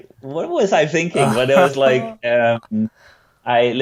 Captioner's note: laughs